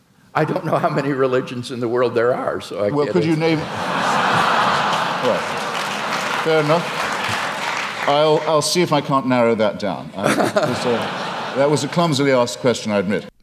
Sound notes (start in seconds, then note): 3.2 audience laughter; 3.6 audience aplause